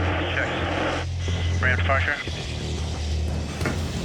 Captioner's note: man Over Radio